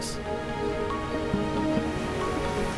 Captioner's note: wind blowing sand